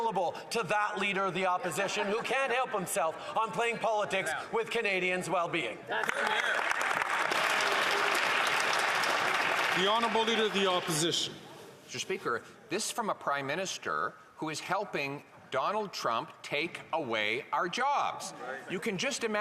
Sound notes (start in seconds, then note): 10.0 some Applause